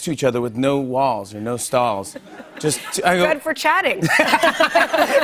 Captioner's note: laughter